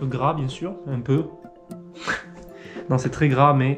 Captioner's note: laughing